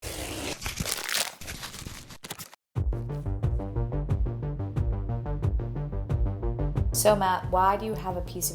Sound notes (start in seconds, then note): 0.3 paper and plastic crinkle; 2.7 upbeat music